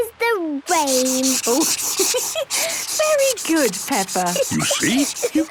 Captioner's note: laughs